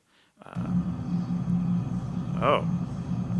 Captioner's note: disturbance hissing